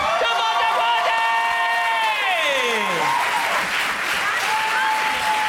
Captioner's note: crowd applauds